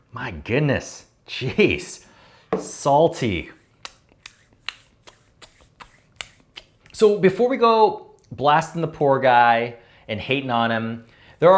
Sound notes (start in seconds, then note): 4.6 smacking lips